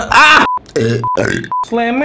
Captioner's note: grunts; burps